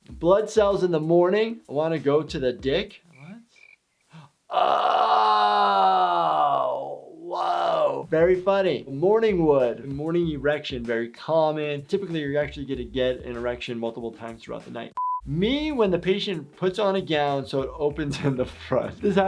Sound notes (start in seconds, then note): 2.9 crickets chirping; 4.0 gasps